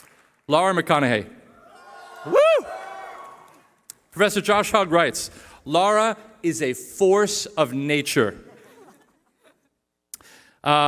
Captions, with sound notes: Lara McConnaughey. [CHEERING] Professor Josh Hug writes, Lara is a force of nature. [LAUGHTER]